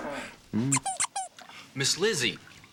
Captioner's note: duck squeaks